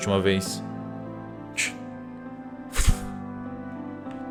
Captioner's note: sound of dirt being thrown